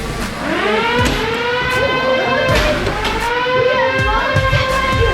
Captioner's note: robots whirring